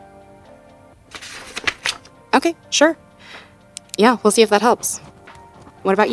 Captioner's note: page turn, pen click, writing sounds